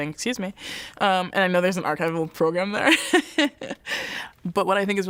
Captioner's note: laughs